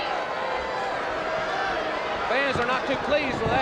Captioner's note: crowd cheering